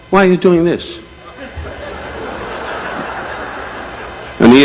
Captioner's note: audience laughing